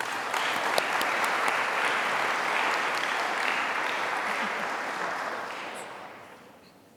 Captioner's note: applause